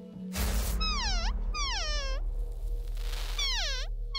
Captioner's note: animal calls